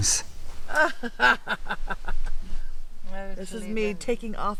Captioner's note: person laughing